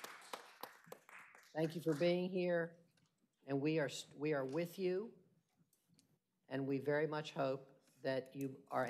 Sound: applause

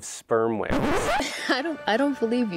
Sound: record scratching

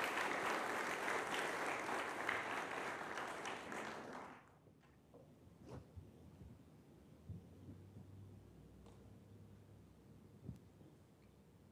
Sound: applause

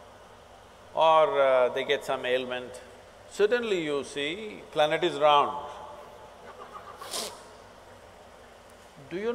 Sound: few laugh

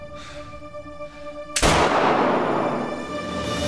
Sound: gun sound

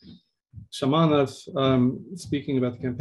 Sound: speaking in Russian

